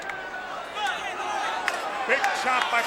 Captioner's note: blows thudding